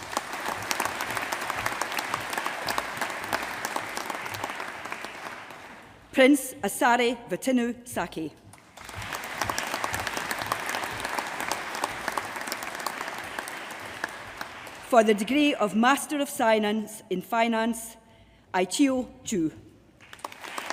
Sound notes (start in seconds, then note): 0.0 applause; 8.4 applause